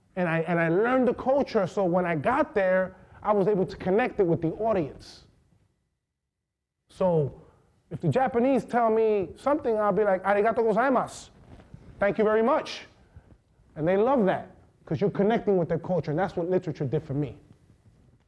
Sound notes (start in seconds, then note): 10.5 speaking foreign language